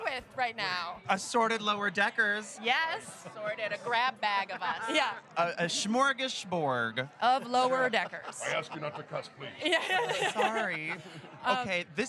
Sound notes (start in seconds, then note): 1.3 chanting "lower decks"